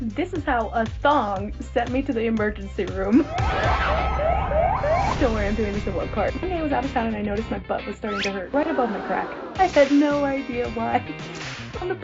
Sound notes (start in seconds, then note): 3.2 siren whooping